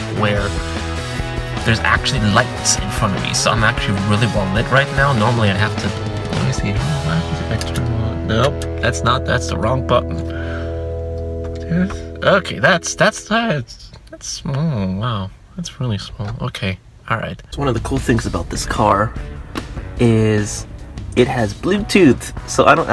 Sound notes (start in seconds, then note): 8.4 buttons clicking; 17.6 upbeat rock music